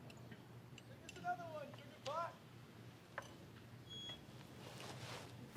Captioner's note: shout